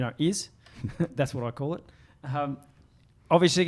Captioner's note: giggles